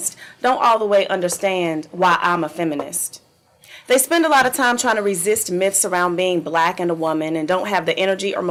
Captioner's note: none